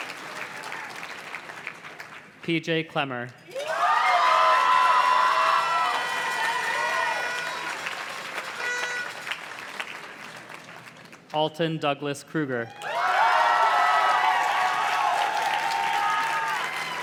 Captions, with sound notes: PJ Klemmer. (audience cheers and claps) (party horn blows) Alton Douglas Kruger. (audience cheers and claps)